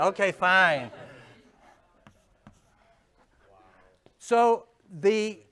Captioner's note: chuckles